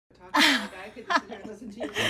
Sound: laughter

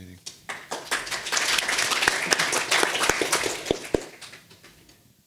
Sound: audience applauding

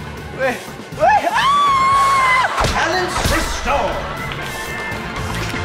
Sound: screaming

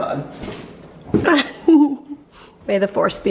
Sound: chuckles

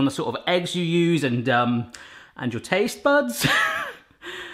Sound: laughs

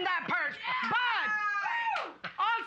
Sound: cheering

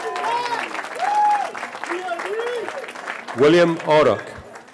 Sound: cheering

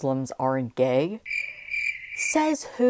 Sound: crickets chirping

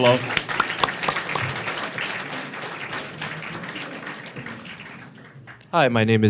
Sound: applause

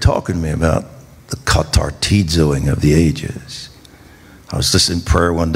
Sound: speaking in foreign language

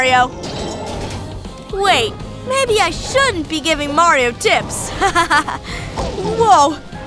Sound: chuckles

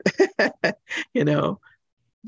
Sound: laughs

